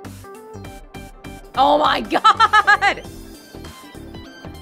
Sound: chuckles

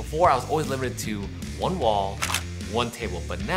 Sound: camera clicking

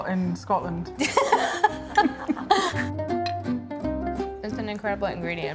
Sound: laughing

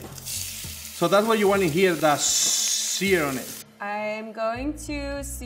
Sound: hissing

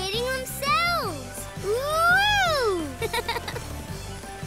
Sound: giggling

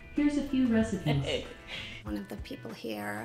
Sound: patient chuckles

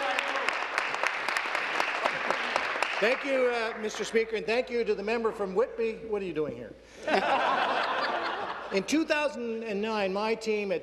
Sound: cheers; applause

